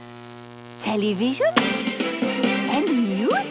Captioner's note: light bulb buzzing; TV static, show music